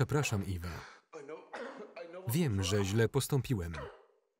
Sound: coughing

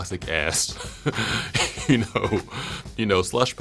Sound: laughs

